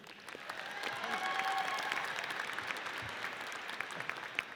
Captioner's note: audience cheers